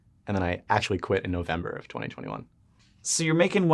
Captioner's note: none